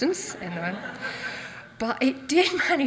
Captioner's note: audience laughs